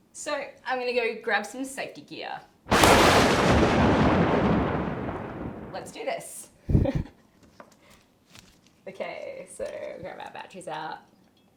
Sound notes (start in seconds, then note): 2.7 thunder